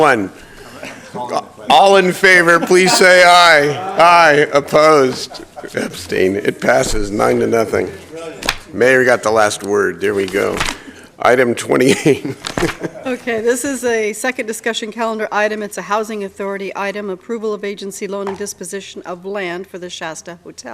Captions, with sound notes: I LIKE TO SUMMARIZE IT BY SAYING DON'T SPEND MONEY YOU DO SAYING DON'T SPEND MONEY YOU DO NOT HAVE. NOT HAVE. VERY GOOD. VERY GOOD. THAT IS RIGHT. THAT IS RIGHT. >> INVEST WISELY AND THINGS >> INVEST WISELY AND THINGS THAT MATTER TO [ LAUGHTER ]. TO THAT MATTER TO [ LAUGHTER ]. TO THE PEOPLE IN THE NEIGHBORHOODS.